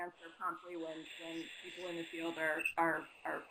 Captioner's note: static